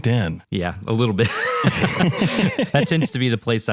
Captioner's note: laugh